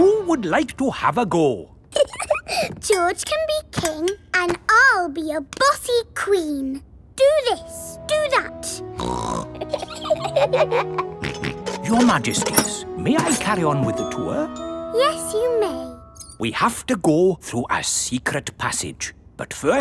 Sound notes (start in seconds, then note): 1.9 giggles; 9.0 snorts; 9.4 both giggle; 11.2 snorts